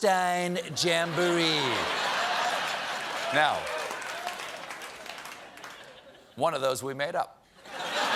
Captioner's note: laughter